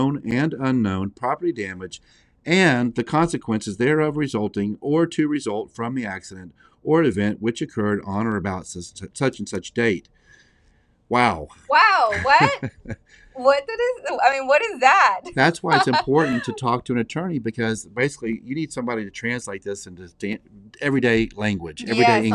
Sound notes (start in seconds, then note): 12.1 laughs; 15.7 laughs